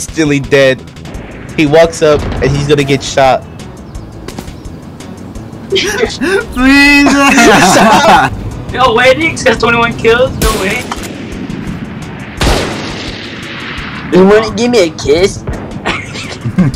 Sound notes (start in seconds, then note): 7.0 laughter